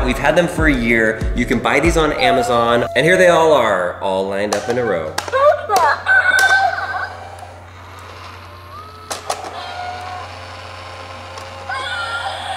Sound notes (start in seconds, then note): 2.2 cat meows; 6.1 electronic sounds; 6.3 gears turning; 6.3 clicks; 9.3 electronic sounds